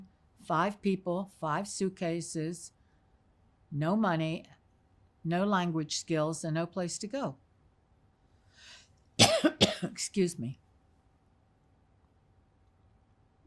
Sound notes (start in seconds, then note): 9.2 coughing